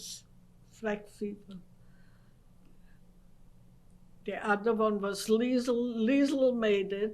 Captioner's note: pauses for 3 seconds